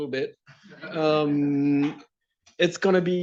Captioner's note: laughter